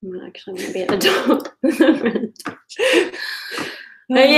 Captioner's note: laughing